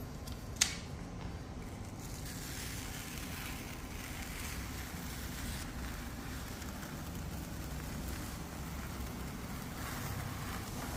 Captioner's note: PET film noise